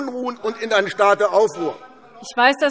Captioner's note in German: Zurufe DIE LINKE